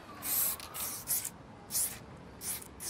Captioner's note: hissing spray sounds